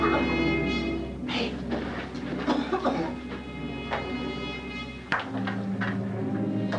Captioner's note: miner coughs; miner coughs